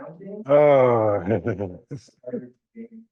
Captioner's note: laughs